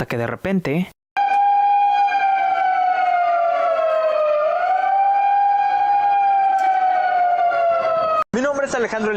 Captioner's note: evacuation alarm